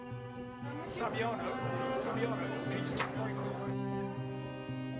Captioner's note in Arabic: ثرثرة الحشد